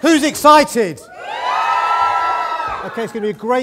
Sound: cheering

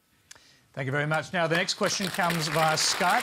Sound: applause

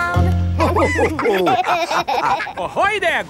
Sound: all laughing

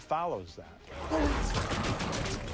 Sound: grunting

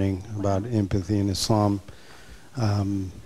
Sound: chuckles

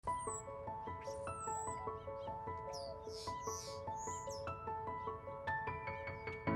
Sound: birds chirp; gentle music

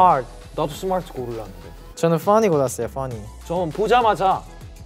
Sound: speaking in Korean

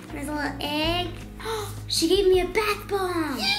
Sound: gasp

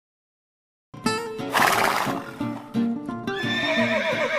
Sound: whinnying

